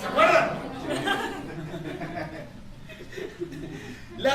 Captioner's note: laughter